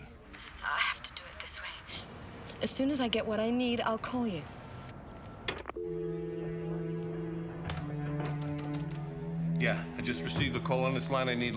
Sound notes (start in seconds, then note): 5.7 dial tone humming; 5.8 dramatic orchestral music